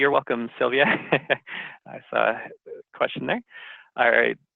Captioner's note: laughs